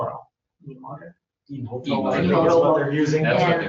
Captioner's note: overlapping chatter